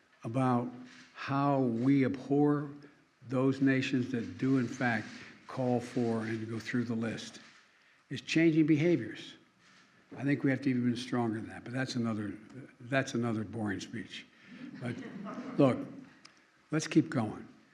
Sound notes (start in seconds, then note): 14.6 laughter